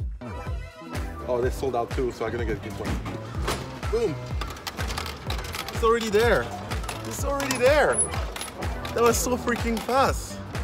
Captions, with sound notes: Oh, they sold out too. So I'm gonna get this one. Boom! (bottle rattles) It's already there. That was so freaking fast.